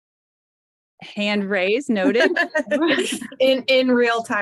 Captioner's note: laughing